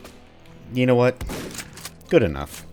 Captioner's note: boom